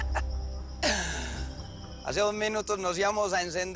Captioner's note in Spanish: Risas